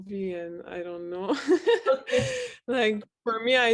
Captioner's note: laugh